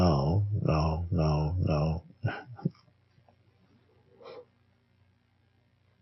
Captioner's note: laughs softly